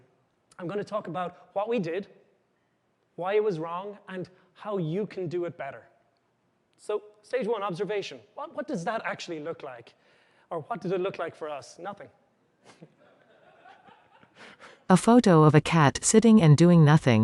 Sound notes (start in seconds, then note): 12.6 laughter